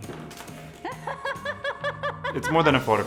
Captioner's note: laughs